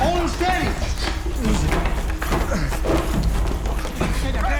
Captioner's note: scuffling continues